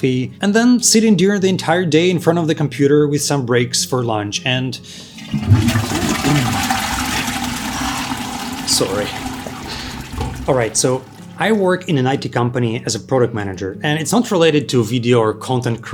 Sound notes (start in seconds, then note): 4.9 flushing water sound